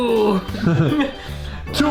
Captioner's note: laughs